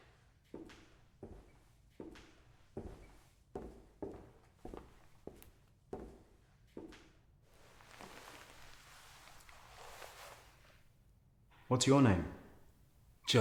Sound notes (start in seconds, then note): 0.7 footsteps approaching